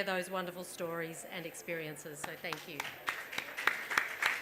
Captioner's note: applause